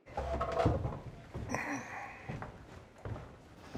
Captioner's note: soft grunting